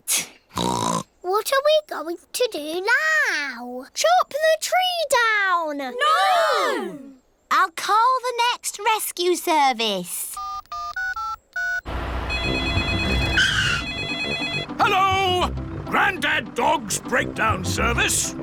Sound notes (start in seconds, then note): 0.6 oinks; 10.4 dialing; 12.2 phone rings